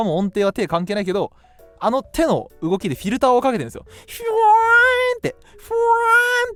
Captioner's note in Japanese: 泣き声